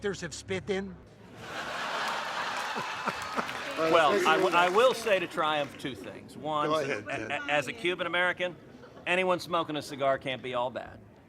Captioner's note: laughter